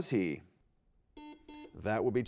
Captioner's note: buzzer beeps